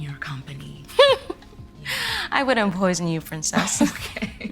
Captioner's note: laughing; laughing